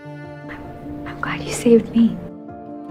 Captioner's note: voiceover